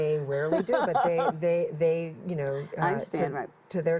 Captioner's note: laughs